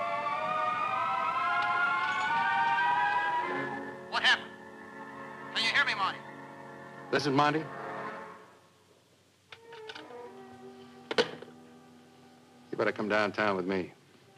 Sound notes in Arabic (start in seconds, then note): 5.7 تعليق صوتي